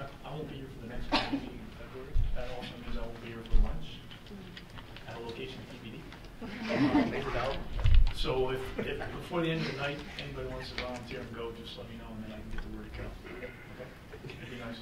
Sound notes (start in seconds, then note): 6.4 laughing; 14.6 murmuring